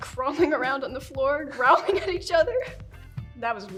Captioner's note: laughing